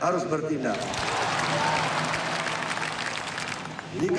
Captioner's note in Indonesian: tepuk tangan